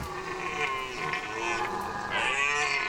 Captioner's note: deer wailing